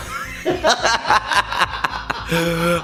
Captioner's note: laughter